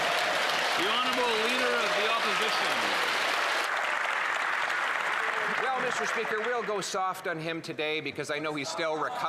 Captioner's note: cheers & Applause